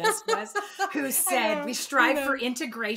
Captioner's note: laughing